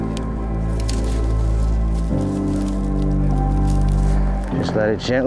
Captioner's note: twigs rustling